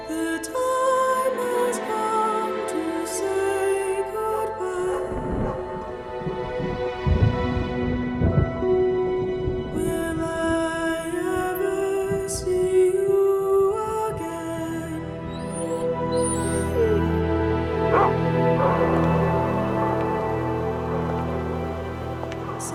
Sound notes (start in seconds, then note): 6.0 somber music; 6.0 thunder rumbling; 15.7 whimpers and barks